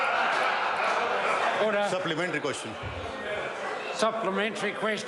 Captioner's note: members laugh